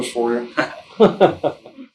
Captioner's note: both laughing